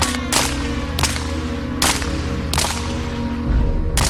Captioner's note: bullet shots